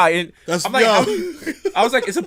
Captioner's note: laughs